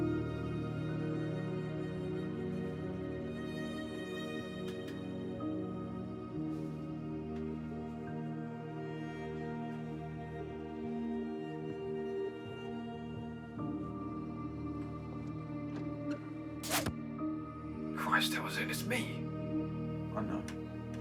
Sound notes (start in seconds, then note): 13.3 footsteps approaching; 16.6 crossbow bolt thudding; 16.6 crossbow firing; 16.6 door clicking open